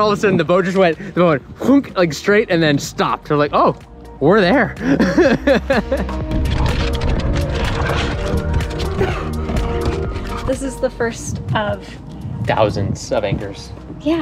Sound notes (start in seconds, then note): 4.8 laughs; 7.7 dogs growling and paws clicking